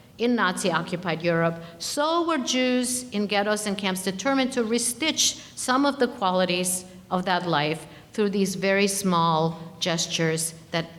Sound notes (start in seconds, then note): none